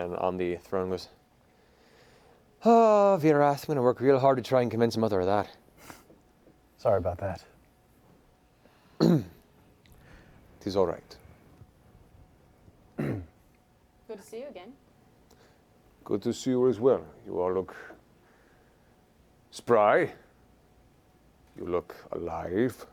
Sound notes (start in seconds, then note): 9.0 clears throat